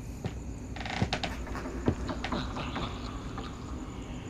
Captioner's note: demonic laughter in distance